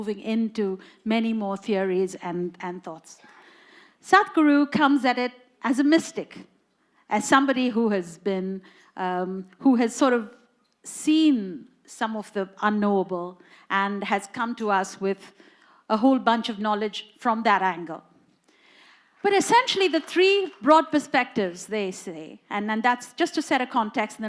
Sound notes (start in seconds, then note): 18.9 applause